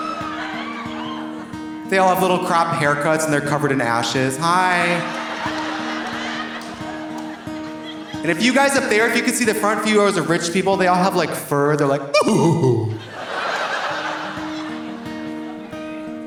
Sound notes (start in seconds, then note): 0.0 audience applauding; 0.0 audience laughing; 4.6 audience laughing; 12.2 chortles; 12.2 audience laughing